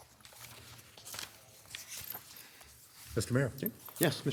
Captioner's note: paper rustling